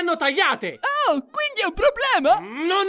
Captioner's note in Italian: con voce acuta